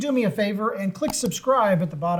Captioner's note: keyboard clicks